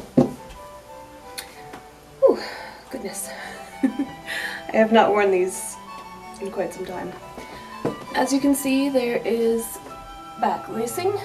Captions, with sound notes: Oooh, goodness! *laughs* I have not worn these in quite some time! As you can see, there is back lacing,